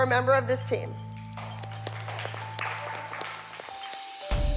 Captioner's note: applause